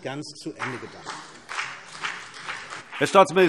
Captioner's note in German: Beifall CDU und BÜNDNIS 90/DIE GRÜNEN